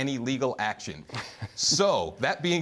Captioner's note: laughter